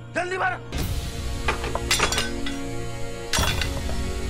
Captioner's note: clanging